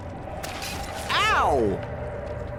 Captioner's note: slashing sound